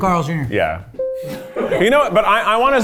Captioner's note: bell ringing